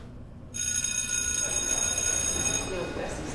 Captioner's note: bell rings